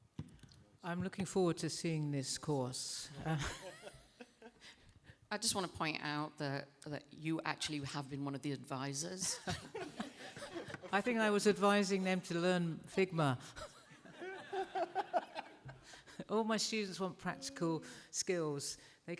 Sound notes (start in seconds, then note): 14.0 laughs